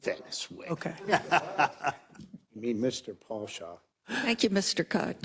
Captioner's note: laugh